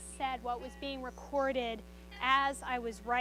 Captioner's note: pen recording plays